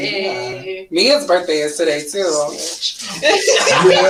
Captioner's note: laughs